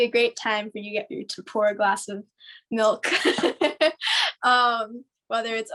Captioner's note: laughs